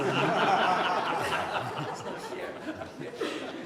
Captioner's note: laughter